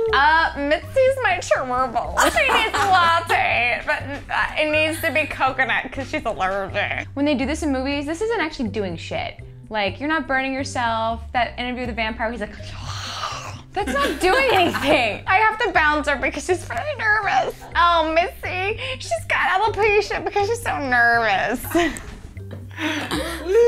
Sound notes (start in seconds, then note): 12.8 sinister exhaling; 22.8 laughs